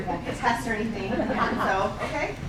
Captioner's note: laughing